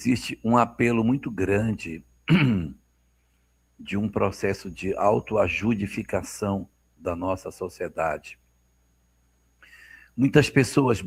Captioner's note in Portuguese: limpando a garganta